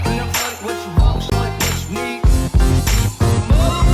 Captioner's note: popping